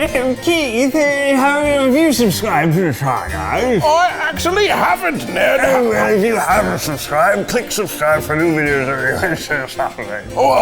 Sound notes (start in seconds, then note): 0.3 posh British accent; 4.0 posh British accent